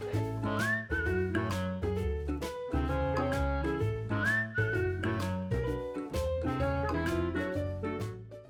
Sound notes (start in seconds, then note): 0.0 playful music; 0.1 whistling